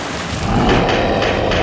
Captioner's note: monster roars